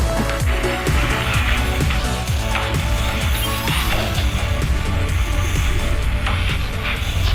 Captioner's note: energetic music continues; radar beeping